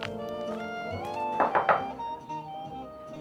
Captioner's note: knocks